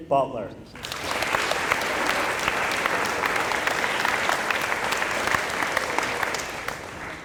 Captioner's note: applause